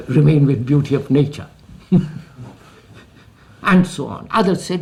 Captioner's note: laughs